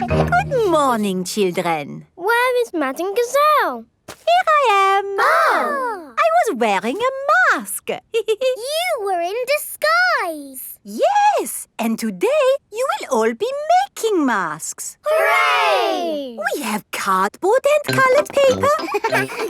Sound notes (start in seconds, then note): 5.1 exclaiming; 8.2 giggles; 17.9 all laughing